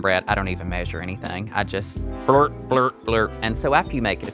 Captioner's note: blurp blurp blurp